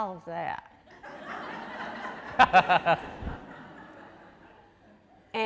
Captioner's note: audience laughing